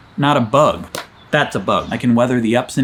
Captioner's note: slapping arm